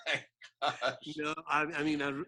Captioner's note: laughing